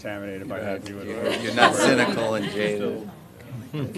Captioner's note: laughter